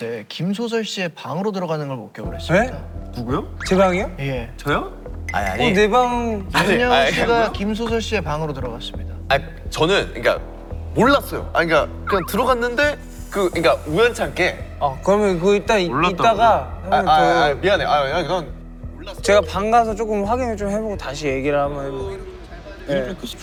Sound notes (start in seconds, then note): 12.0 stammering